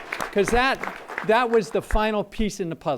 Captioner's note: applause